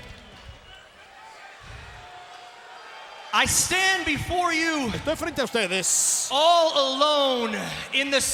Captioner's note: applause